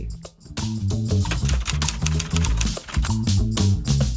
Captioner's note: typing clicks